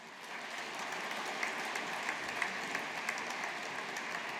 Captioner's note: audience applauding